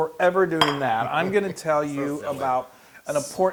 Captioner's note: laugh